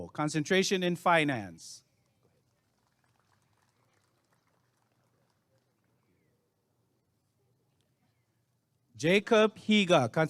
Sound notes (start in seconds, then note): 2.0 applause and cheering